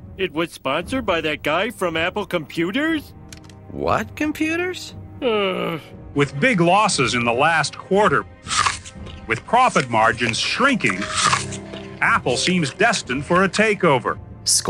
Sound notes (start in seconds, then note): 5.2 Homer groans